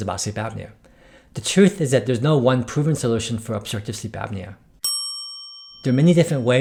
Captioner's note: ding